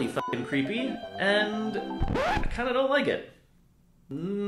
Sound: record scratch

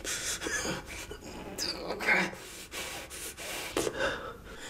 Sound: groaning

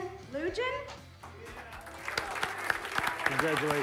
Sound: cheers and applause

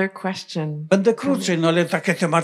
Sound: foreign language

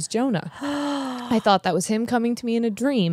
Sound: sighs

